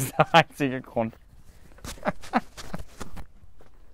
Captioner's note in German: Gelächter